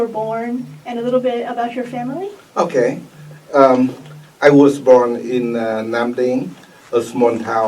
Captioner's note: mic noise